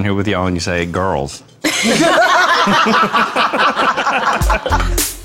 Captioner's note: group laughing